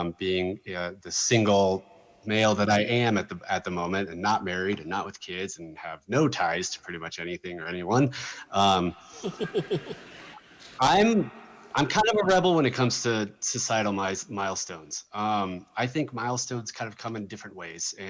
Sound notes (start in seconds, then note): 9.1 laughter